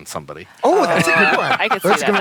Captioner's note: laughter